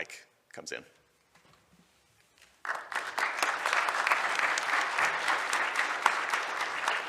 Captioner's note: applause